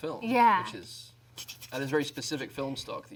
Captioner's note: imitates camera ticking